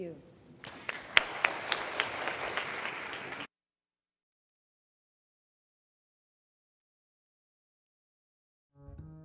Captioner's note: applause